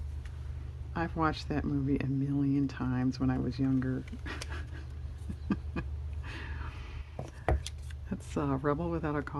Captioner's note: laughs